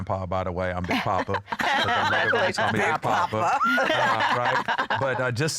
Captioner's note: laughter